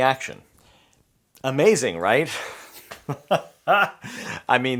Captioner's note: chuckles